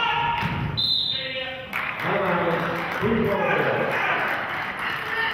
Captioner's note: whistle blows; murmurs; clapping